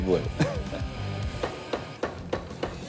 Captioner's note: laughs; machine thunking